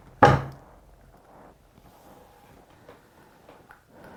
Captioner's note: hand taps